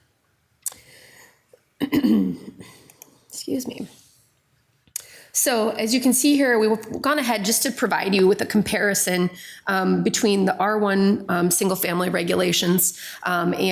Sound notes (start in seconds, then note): 1.8 clears throat